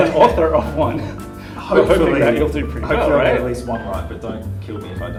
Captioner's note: laughter